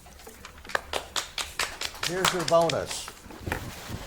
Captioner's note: spectators clap